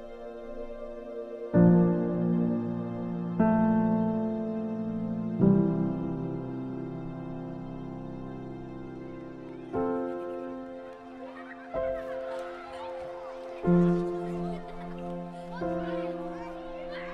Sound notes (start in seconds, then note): 11.7 children laughing and shouting